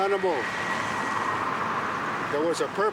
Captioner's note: screeching airplane noise